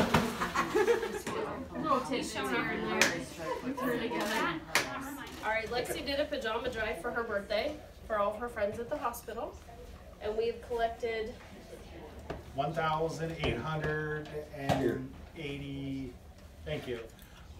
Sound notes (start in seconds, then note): 0.4 scattered laughter; 2.4 all chattering